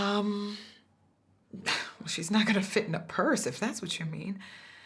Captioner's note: scoffs